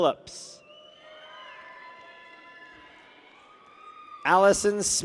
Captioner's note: people cheer